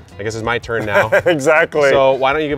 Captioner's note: laughs